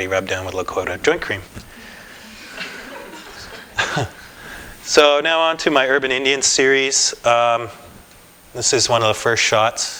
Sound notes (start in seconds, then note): 2.2 laughter